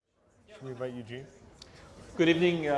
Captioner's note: background chatter